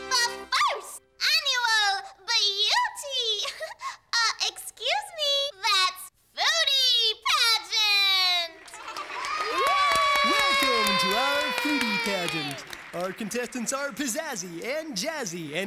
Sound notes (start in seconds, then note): 2.8 giggling; 8.4 cheering and clapping